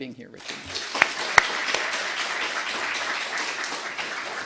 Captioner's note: audience clapping